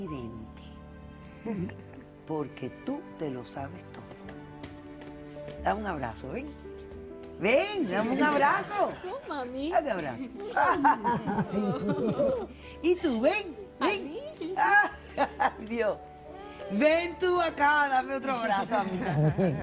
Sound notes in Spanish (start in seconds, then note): 10.5 Risas; 15.4 Ríe